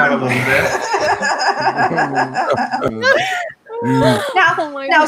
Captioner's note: participants laughing